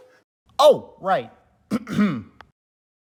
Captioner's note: clears throat